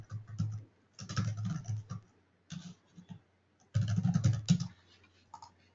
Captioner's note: typing